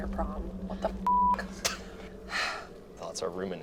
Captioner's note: beep